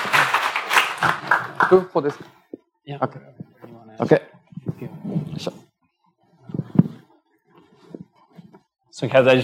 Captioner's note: speaking japanese